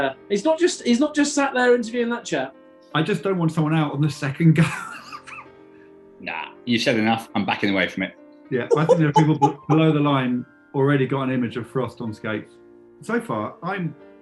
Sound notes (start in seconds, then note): 5.0 laughing; 8.6 chortling